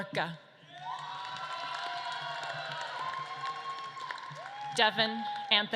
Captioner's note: audience claps and cheers